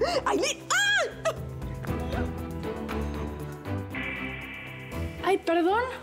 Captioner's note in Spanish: gritos y exclamaciones